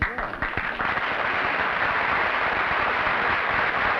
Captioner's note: applause